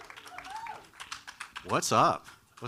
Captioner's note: crowd cheering